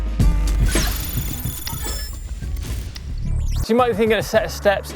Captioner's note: logo whooshing and crackling